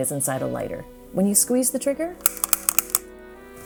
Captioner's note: click, click, click